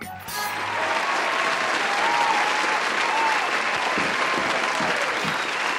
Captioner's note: applause